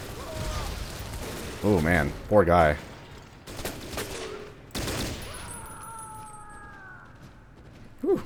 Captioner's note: M16 fires, barrel explodes, immolated Soldier screaming